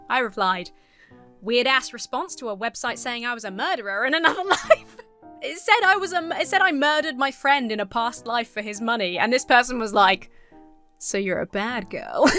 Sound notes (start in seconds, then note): 4.2 laughs